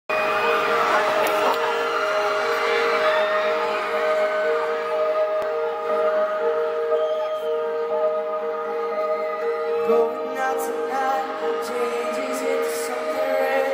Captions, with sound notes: [instrumental intro] [fans screaming] Going out tonight changes into something red